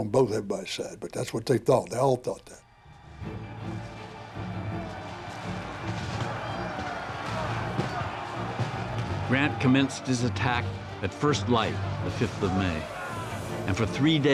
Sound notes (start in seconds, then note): 5.9 gunfire, men shouting